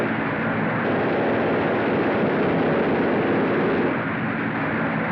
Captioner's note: machine Gun Fire Continues